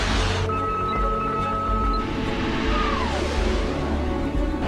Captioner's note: machine beeping